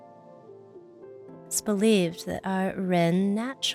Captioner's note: speaking in foreign language